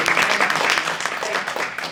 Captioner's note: audience applauding